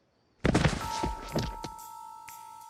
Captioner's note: thud